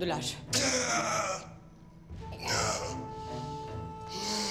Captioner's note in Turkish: Bağırma sesi; İnleme sesi